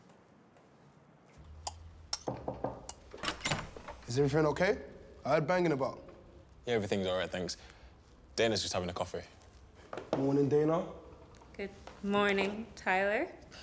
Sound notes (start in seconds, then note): 2.1 utensil clanking; 2.2 hand knocking; 3.2 latch clicking